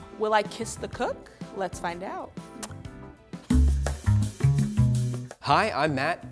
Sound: kissing noise

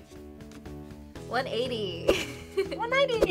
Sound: laughs

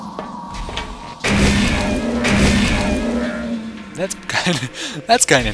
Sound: gunshots and squishing noises

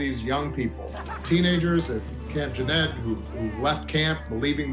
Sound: campers laughing

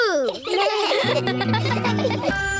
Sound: all laugh

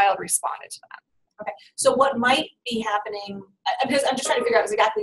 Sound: voiceover

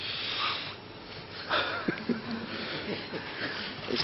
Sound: laughs

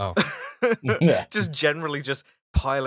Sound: laughter

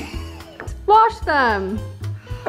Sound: laughs

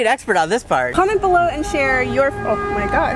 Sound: car horn

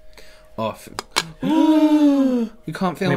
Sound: gasps of Terror

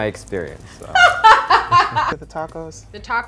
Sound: laughing

